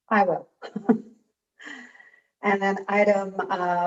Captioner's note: chuckling